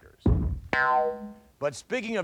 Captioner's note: pole thuds; spring boings